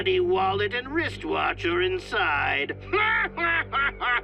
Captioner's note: laughs